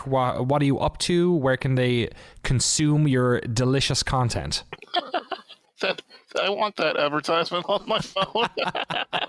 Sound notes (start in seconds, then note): 4.7 laughs